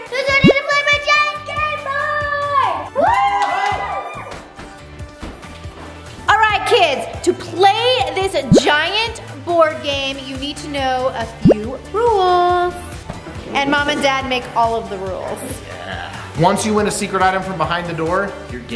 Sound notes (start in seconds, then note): 2.0 cheers